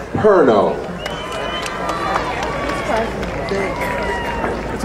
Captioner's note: crowd cheering